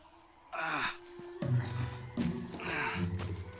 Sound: Sam grunts with effort

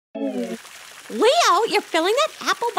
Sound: water flowing

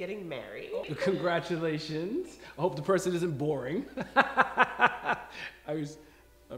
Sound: he laughs

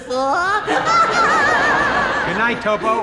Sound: laughing

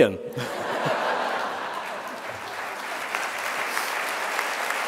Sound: audience laughing & applause

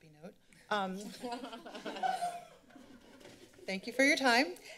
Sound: laughter

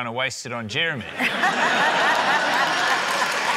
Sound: laughter, applause

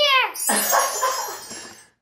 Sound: tinkling; laughs

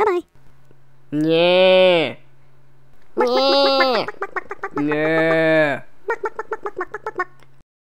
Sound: cows mooing and chickens clucking

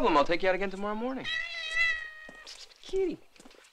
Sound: Dickens meows

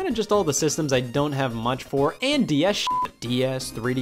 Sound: beeps

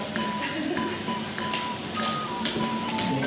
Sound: chuckling

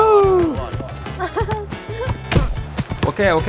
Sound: laughter

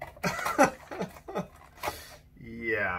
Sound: he laughs

